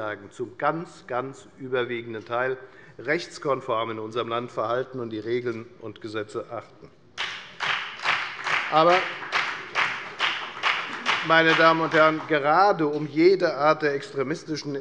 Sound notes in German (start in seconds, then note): 7.1 Beifall bei der FDP